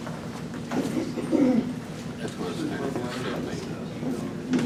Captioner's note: group murmurs